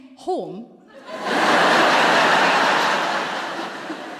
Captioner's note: laughter